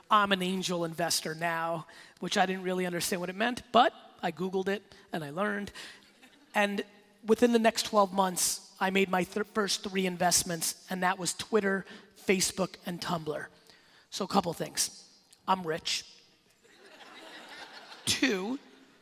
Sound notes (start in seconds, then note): 17.1 laughing